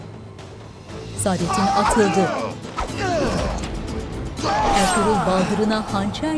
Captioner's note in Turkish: Müzik - Gerilim; Dövüş sesleri